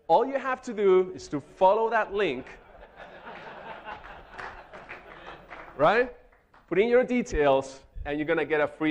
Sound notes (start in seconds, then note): 2.2 audience laughing; 3.2 audience clapping